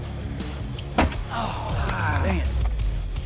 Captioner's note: all groaning